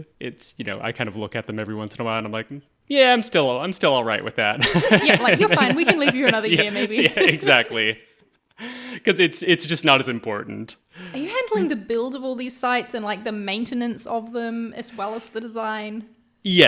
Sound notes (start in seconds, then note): 4.6 laughing